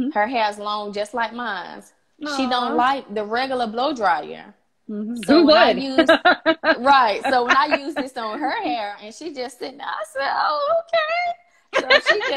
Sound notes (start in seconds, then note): 5.2 laughs